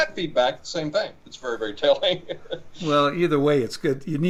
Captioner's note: laughing